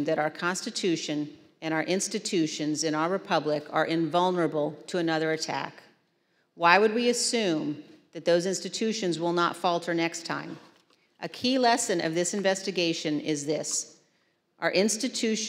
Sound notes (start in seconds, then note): none